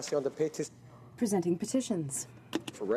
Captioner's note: speaking French